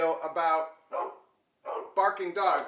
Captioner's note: dogs barking